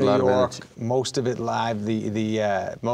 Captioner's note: none